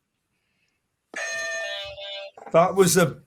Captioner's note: bell ringing